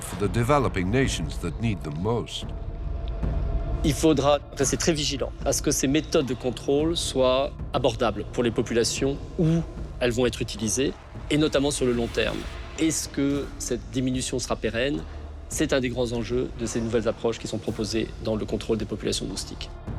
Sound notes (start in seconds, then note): 3.9 speaks in foreign language